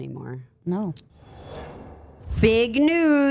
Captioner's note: air whooshing